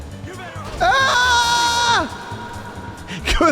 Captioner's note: screams